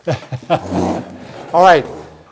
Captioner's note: laughing